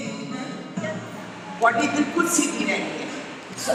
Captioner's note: in Urdu